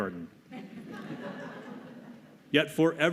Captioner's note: laughter